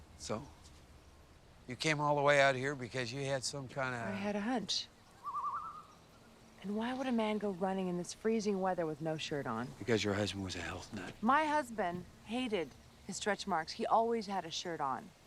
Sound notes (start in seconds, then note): none